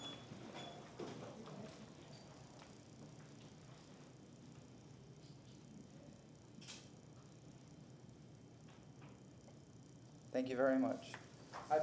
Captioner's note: moment of silence